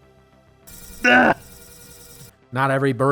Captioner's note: grunt